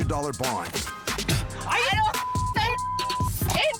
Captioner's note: spits